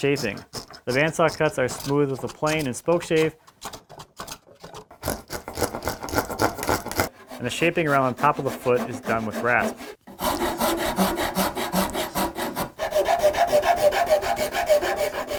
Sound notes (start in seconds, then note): 4.3 wood scratching; 10.1 wood scraping